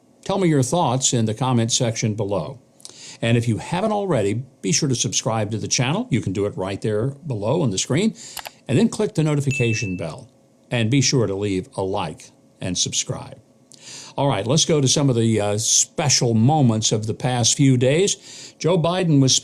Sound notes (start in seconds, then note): 8.4 mouse clicks; 9.5 bell dings